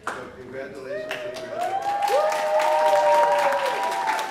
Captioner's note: applause